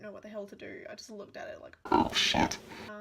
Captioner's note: demonic voice